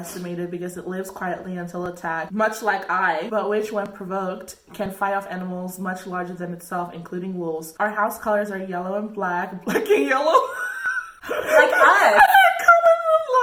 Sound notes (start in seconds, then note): 10.2 laughing